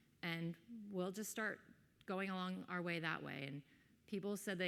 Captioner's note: none